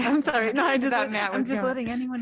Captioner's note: laughter